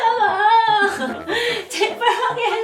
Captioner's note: laugh